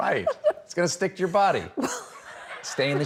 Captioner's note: laughter